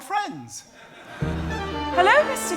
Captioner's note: audience laughing